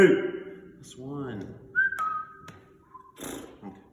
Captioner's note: neighs